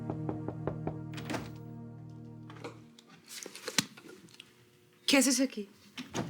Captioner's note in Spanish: Toques en la puerta